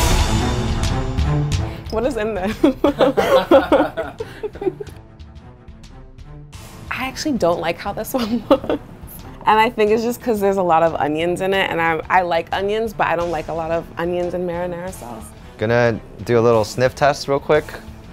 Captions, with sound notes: (suspenseful music) - What is in this (laughing)? I actually don't like how this one looks. And I think it's just 'cause there's a lot of onions in it and I like onions but I don't like a lot of onions in marinara sauce. - Gonna do a little sniff test real quick.